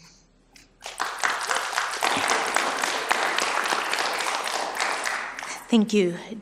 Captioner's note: applause